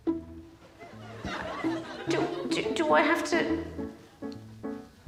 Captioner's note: playful music; audience tittering